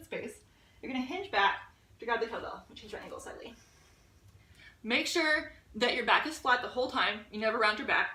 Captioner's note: mumbles: Gotta move slightly